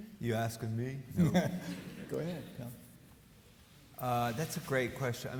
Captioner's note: laughs